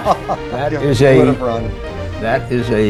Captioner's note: laughter